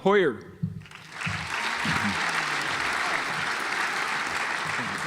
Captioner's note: audience applauds